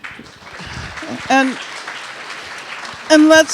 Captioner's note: audience applauding